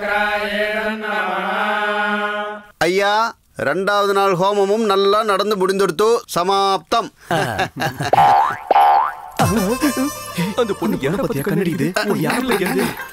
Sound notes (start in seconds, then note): 7.2 laughs